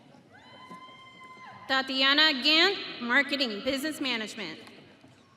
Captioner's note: audience cheering